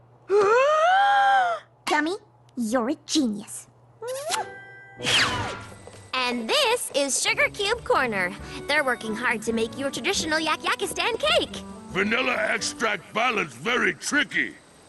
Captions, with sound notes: [gasp] Gummy, you're a genius! [kiss] And this is Sugarcube Corner. They're working hard to make you a traditional Yakyakistan cake. VANILLA EXTRACT BALANCE VERY TRICKY!